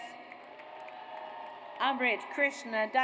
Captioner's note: audience applauds